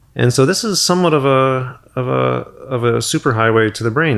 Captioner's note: none